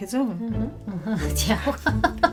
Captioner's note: laughing